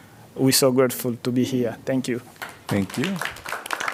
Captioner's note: applause